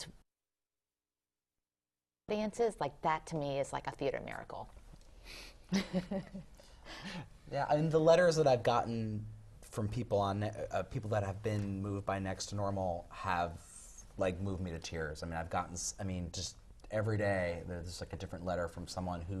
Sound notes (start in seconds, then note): 5.0 laugh